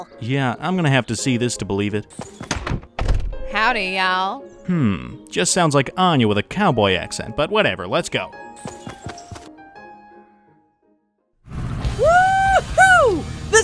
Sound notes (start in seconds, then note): 2.2 door opens; 2.4 door closes; 8.6 footsteps tapping; 9.3 upbeat calm music; 11.9 Tanner whooping